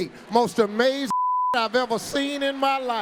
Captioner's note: audience roaring; beep